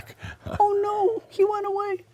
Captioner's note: chuckling